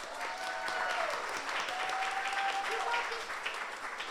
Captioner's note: audience applauds